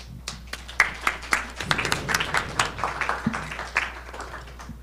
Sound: audience clapping

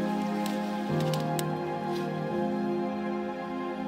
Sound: leaves rustle

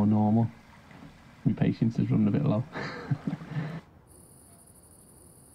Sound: chuckles

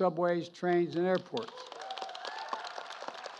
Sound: applause

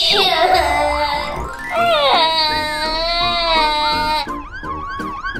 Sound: crying

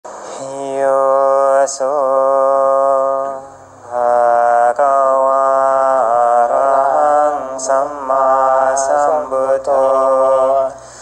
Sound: animatronics chanting

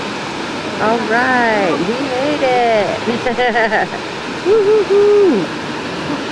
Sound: relieved laugh

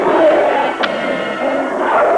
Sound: wolf growling; trigger clicks

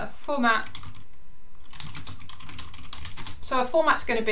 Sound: keyboard clicking

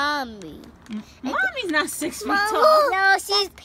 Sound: voiceover

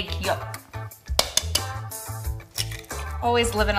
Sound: cracking

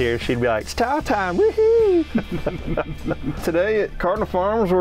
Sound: laughing

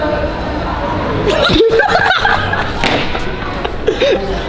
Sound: both laugh

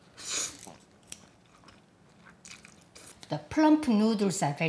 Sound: blowing; slurping

